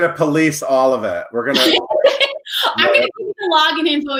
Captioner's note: laughing